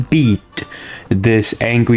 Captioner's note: inhales Oxygen